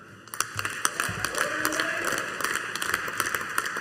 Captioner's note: audience applauding